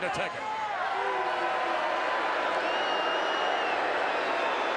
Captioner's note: crowd booing